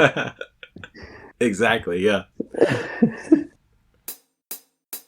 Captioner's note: laughs; laughs; drum transition sound